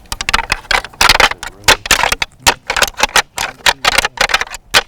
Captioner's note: antlers clanking